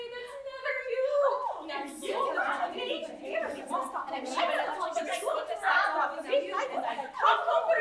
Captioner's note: overlapping chatter